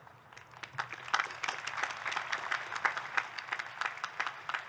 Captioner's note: audience clapping